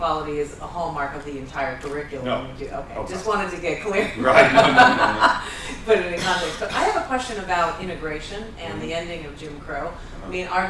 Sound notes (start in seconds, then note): 3.9 laughter